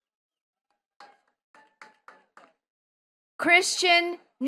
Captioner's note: attendees clapping